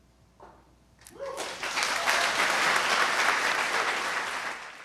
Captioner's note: audience applause